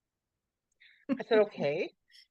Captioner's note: laughs